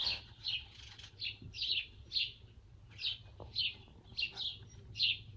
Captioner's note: birds chirping